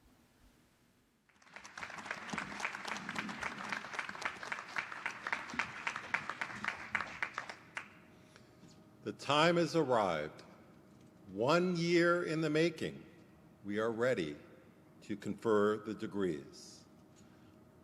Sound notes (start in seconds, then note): 1.2 applause